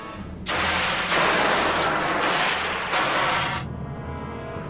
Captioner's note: thermal exhaust hissing